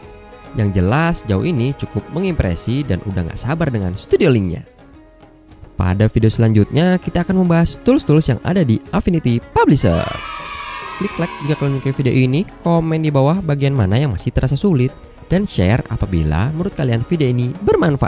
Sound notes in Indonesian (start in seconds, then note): 9.7 suara kegembiraan